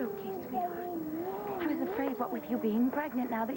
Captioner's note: starr babbles